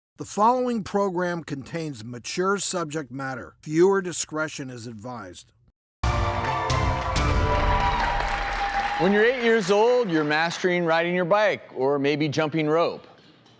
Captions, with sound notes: The following program contains mature subject matter. Viewer discretion is advised. (dramatic music) (audience cheering) When you're eight years old, you're mastering riding your bike or maybe jumping rope,